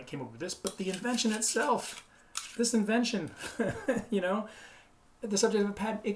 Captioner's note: laughs